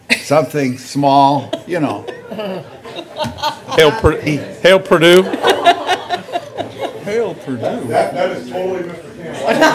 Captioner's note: laughter; laughter